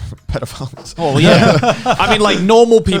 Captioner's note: all laughing